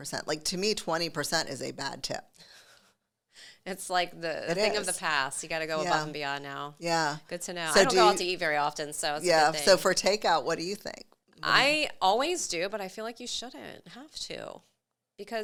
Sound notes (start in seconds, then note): 2.6 chuckles